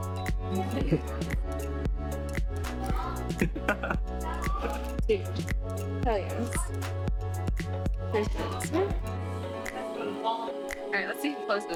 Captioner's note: laughs